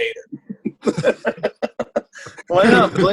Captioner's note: laughter